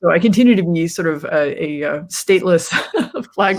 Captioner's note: laughs